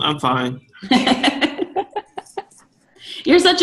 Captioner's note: laughing